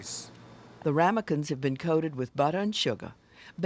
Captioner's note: voiceover